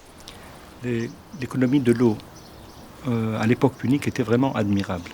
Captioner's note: speaking French